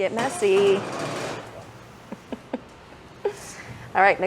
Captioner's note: laughs